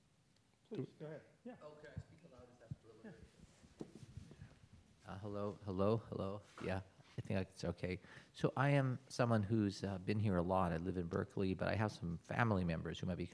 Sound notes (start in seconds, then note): 2.9 speaking quietly